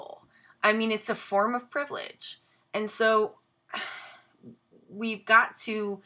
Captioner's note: sighs